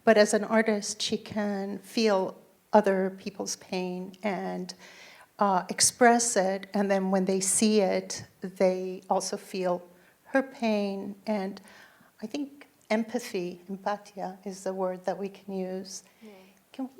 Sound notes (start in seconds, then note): 12.9 foreign language